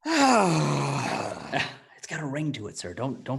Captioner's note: sighs